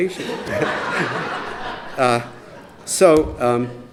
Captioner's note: laughter